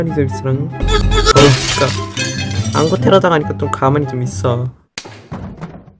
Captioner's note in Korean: 쨍그랑